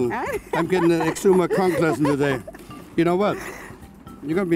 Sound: laughs

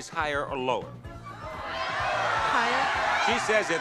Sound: crowd shouts

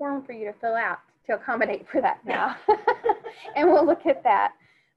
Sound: laughs

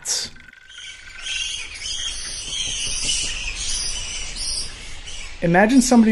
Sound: bats shriek and flap their wings

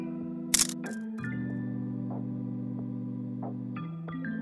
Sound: chill music; camera clicking

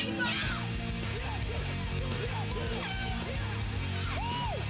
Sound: horn toots

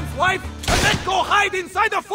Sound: gunshot

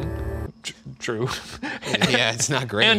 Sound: laughing

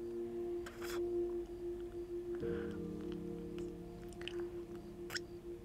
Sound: kissing

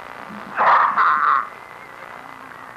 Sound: coughing intensifies

